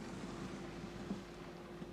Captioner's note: whoosh